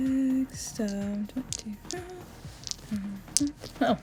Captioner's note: humming